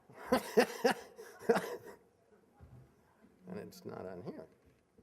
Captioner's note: laughing